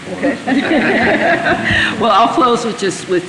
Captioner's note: laughter